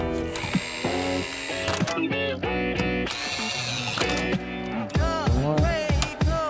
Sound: drill whirls; upbeat music

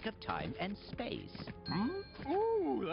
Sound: bell dings

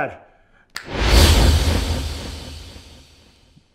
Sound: whooshing

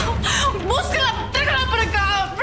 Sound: speaking foreign language

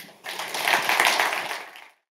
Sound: audience applauds

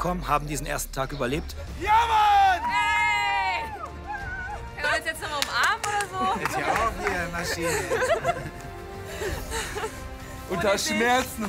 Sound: applause

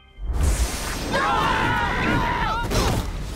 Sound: screaming

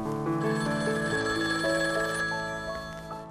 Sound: telephone ringing

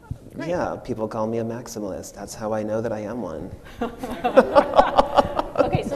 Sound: machine and audience laugh

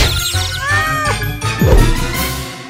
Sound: groaning

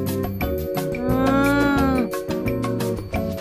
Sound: llama sound

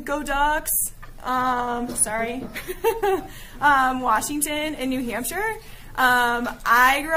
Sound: giggling

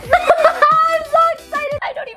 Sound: laughing

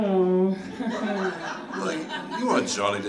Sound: audience laughs

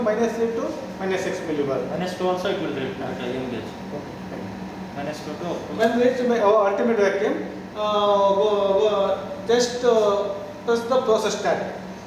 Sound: roughing pump

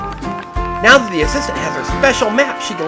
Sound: voiceover

